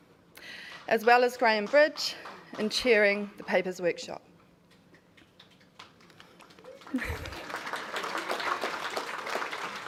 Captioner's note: applause